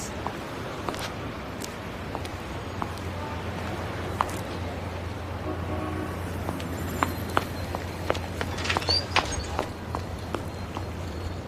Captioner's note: horns honking